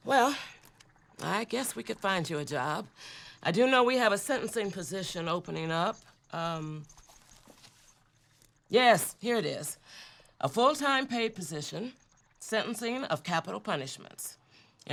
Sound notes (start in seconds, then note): none